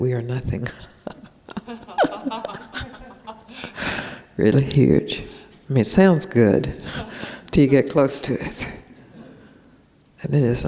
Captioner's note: laughs